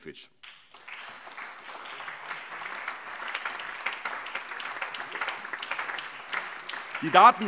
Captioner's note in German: Allgemeiner Beifall